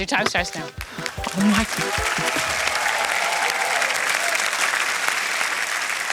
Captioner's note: cheering, applause